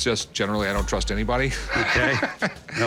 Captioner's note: laughs